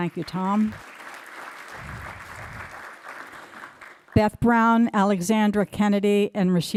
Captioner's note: applause